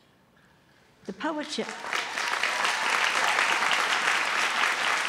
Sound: applause

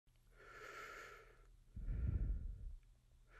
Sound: heavy breathing

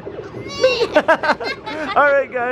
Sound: both laughing

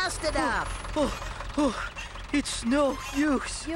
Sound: panting

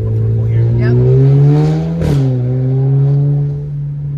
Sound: engine revving

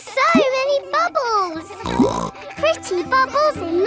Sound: snorts

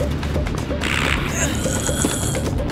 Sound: groaning

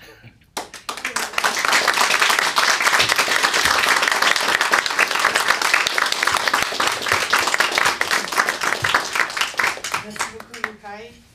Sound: applause

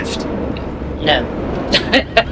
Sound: laughter

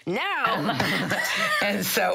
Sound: laughs

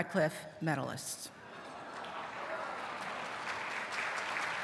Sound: applause

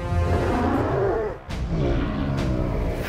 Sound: roars

